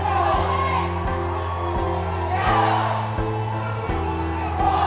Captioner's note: uplifiting music; chanting; uplifiting music